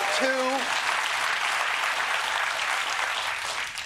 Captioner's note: applause